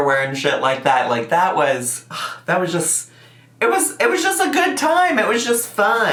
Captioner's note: scoffs